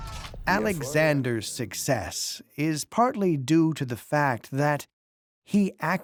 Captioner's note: in German